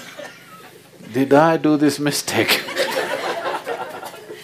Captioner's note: laughter; 笑聲